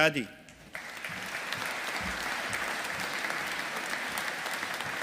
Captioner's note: audience applauding